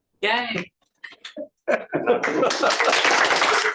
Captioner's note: applause